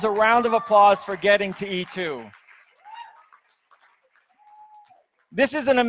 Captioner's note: audience cheers